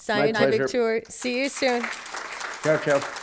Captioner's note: applause